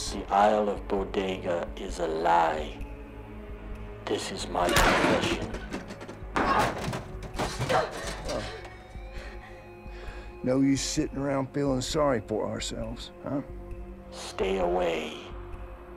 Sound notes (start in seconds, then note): 7.7 grunting